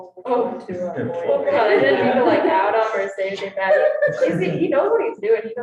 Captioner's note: students laughing